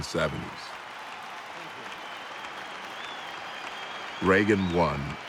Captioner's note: crowd cheering